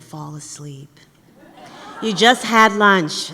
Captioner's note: laughter